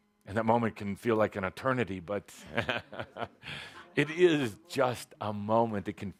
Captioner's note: chuckling